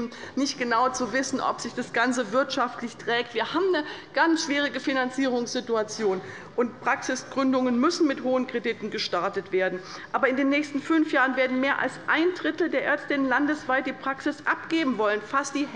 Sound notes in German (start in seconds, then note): none